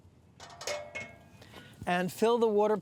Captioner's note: clanging